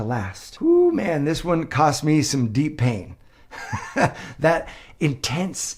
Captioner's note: chuckles